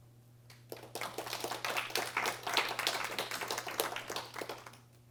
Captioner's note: applause